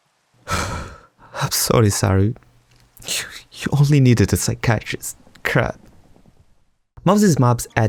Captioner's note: sobbing